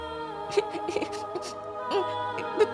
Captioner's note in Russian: плачет